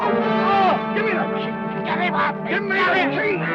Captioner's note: groans